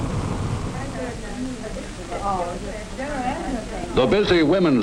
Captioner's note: women chatting